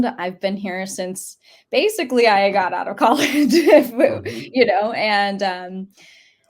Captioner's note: laughs